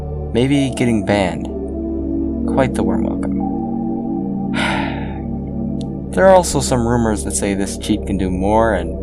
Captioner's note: sigh